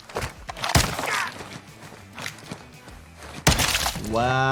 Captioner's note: bullet popping; bullet popping